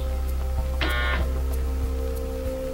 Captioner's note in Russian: гудок; шепотом